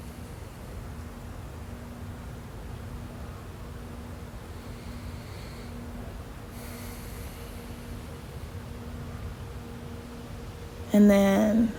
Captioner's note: someone begins to calmly breath in and out a few times